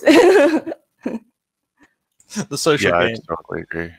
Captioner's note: laughs